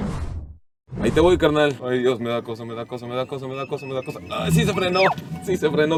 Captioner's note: alarm beeping